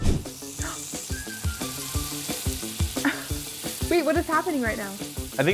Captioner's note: fire hissing